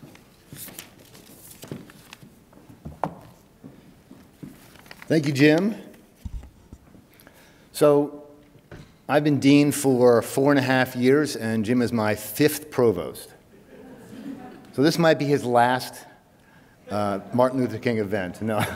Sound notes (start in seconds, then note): 13.5 audience chuckles